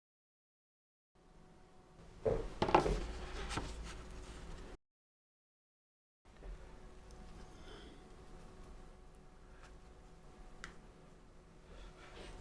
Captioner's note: silence